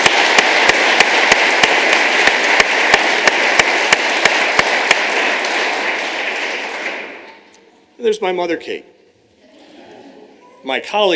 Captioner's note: applause